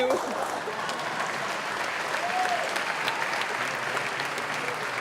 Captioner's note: audience applause